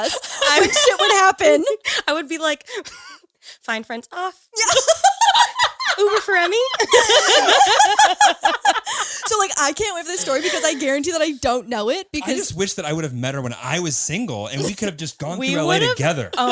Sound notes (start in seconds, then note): 4.6 all laughing